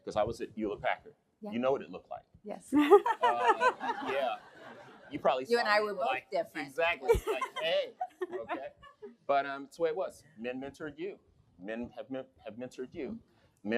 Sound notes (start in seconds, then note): 2.8 laughs